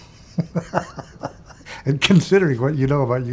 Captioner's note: laughs